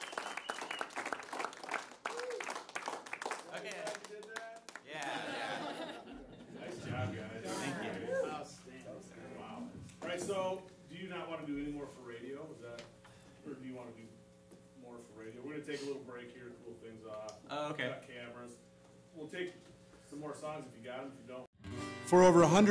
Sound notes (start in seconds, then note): 0.0 applause; 6.3 background Chatter; 11.1 background Chatter